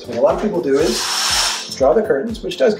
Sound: curtains drawing

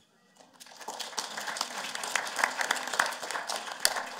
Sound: applause

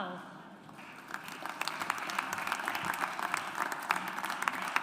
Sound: audience applauds

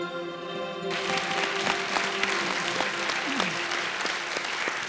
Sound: audience applauding

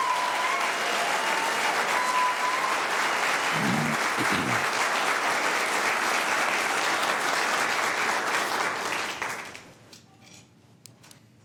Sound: applause

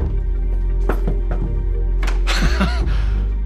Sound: footsteps plod; Daevisha knocks; Chuck chuckles

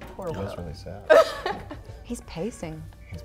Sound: laughs

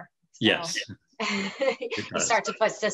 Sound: laughing

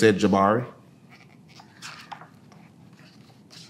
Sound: pages rustling

